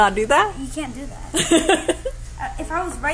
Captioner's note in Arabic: يضحك